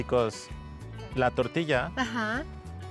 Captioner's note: speaking Spanish